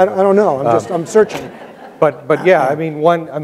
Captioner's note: audience laughs